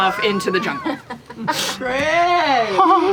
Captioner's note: laughter